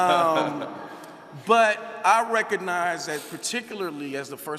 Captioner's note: laughing